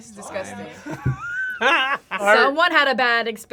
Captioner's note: both laugh